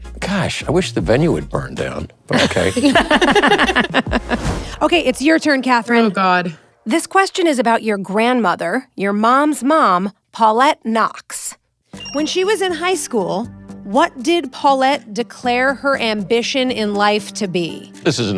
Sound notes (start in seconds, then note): 2.3 laughing